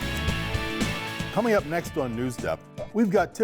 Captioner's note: voiceover